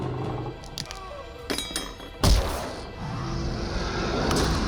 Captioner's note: bone breaks; roars